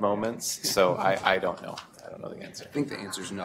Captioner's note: laughter